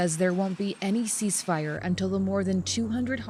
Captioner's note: speaking Alternate Language